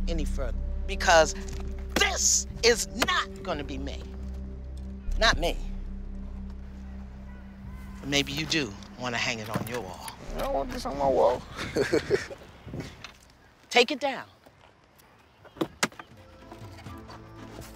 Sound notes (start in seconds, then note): 11.4 laughs